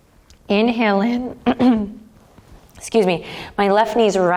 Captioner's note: clears throat